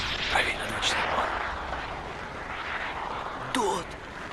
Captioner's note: rocket firing